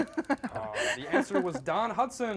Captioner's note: laughs